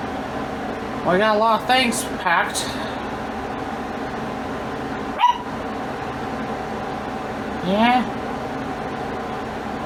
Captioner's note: Ella barks off-screen